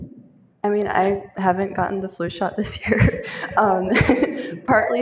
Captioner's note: laughter